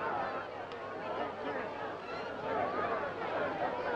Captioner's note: crowd chattering